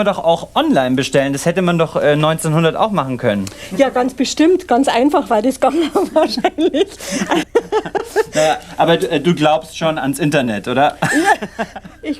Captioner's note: laughs